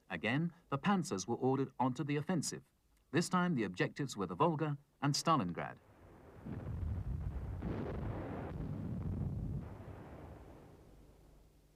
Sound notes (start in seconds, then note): 5.9 bombs exploding